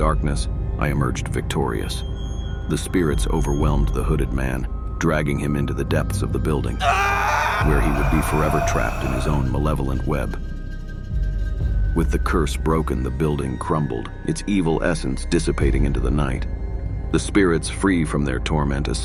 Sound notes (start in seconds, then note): 7.0 shouts